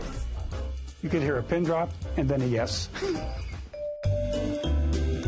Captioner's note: laughs